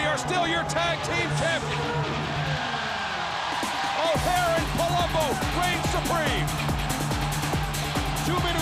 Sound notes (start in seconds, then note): 2.2 crowd cheering